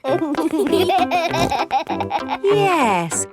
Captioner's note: laughing